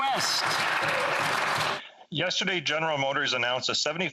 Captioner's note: applause